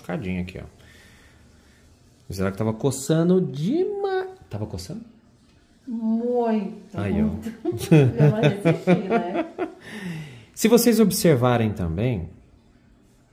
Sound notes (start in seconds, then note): 7.5 laughs